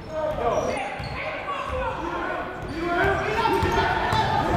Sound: shouting

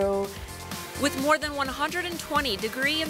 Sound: voiceover

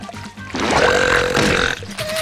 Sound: burping

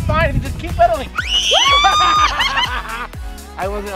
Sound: screams; laughs

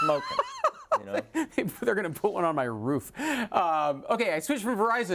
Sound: laugh

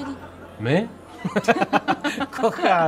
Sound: laughter

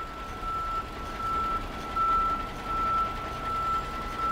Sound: truck beeping

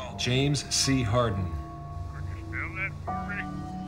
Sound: on phone

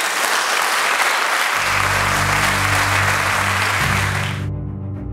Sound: applause

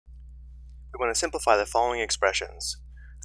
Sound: voiceover

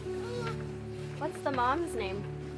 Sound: puppy whines

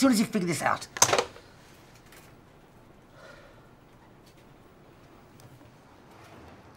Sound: phone slamming; Nick sighing

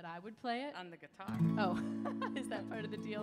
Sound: laughs

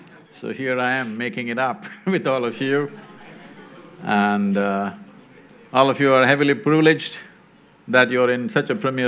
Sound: laughter; laughs

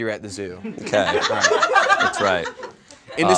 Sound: audience laughs

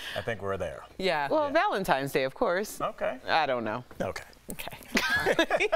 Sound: laughter

